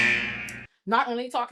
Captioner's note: buzzer